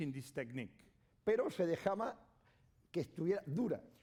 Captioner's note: speaking spanish